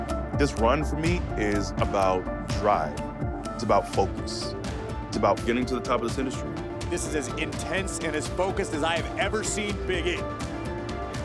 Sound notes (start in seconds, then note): none